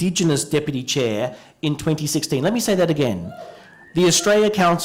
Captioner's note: cheering